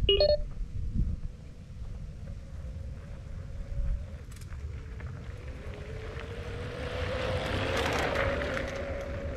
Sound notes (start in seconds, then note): 0.0 beeps; 5.9 bike whirring